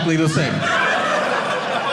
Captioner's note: audience laughing